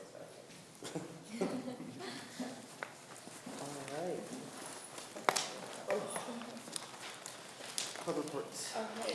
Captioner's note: laughing